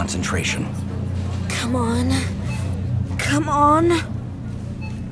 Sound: straining

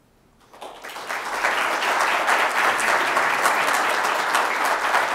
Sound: audience applauding

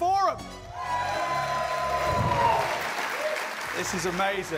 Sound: cheers and applause

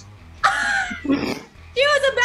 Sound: group laughing

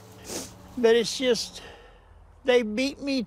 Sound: sighs

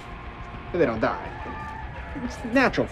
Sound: rooster crowing

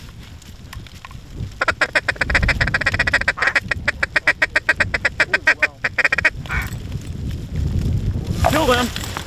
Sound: duck Calling

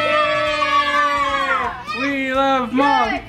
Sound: all cheering

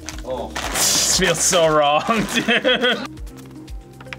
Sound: laughs

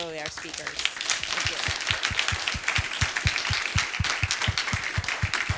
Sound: applause

